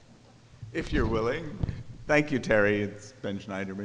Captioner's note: voiceover